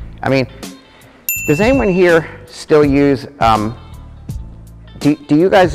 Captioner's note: bell ding